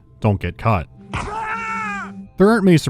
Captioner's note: screams of having got caught